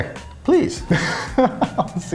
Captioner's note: laughing